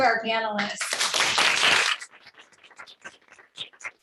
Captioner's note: clapping